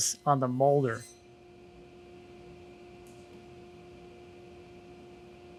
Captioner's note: machine humming